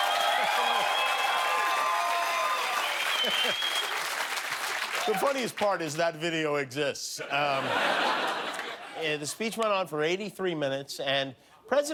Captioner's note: cheers and applause